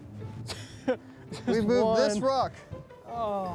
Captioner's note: laughter